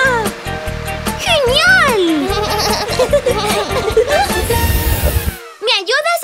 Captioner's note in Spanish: Risas